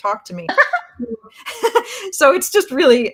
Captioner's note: laughs